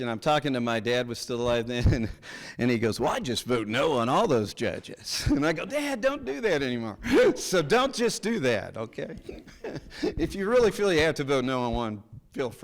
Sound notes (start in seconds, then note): 9.1 chuckles